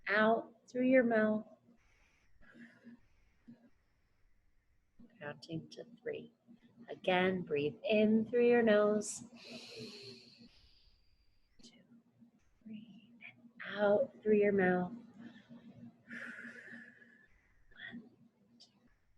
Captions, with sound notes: Out through your mouth, (exhales) counting to three. Again, breathe in through your nose. (inhales) Two, three, and out through your mouth. (exhales) One, two, three.